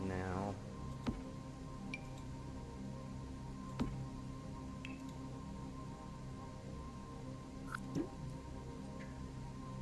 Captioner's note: Sims object placement sounds